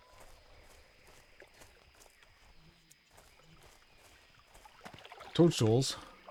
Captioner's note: water gurgling